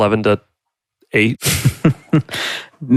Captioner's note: laughs